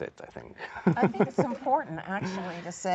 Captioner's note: laughter